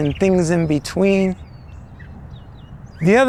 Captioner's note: bird calling